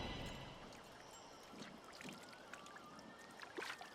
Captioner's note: water tinkles